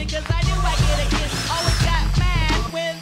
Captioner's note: Maschinengeräusche